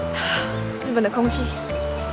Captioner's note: breathe